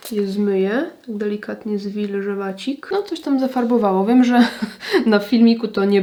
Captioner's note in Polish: śmiech